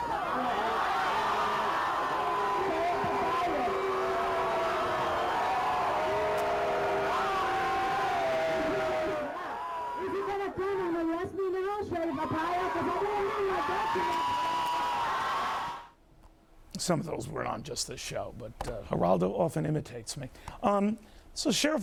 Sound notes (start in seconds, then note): 4.8 cheering